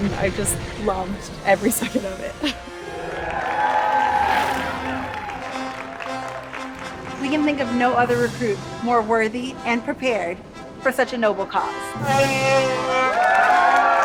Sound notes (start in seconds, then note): 2.8 audience applauding; 12.4 Chewbacca screams; 12.9 audience applauds